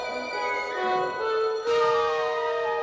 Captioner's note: eagle whistles